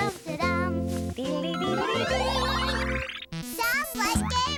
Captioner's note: electronic bleeping